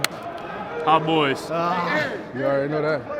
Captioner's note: group chattering